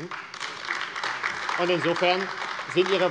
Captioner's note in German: Beifall AfD